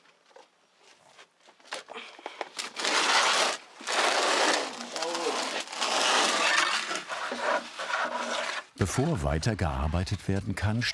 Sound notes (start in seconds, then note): 2.5 loud crunching